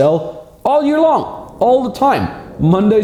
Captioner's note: wind whooshing